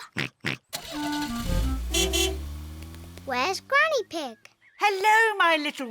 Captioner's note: oinks; horn beeps